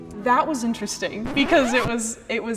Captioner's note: record scratch